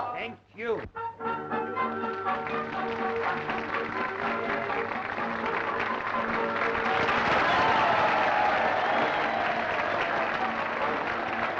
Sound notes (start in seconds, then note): 0.9 upbeat music; 4.0 applause and cheering